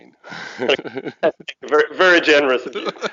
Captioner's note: both laugh